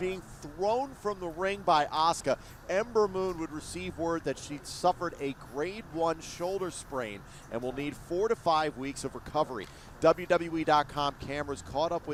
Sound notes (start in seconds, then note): none